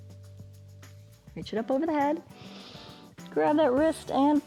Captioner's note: inhales